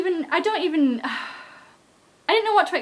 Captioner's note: sigh